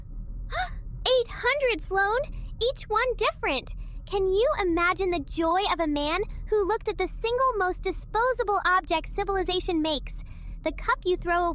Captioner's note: gasp